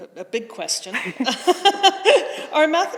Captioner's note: both laughing